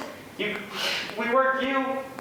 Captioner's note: sighs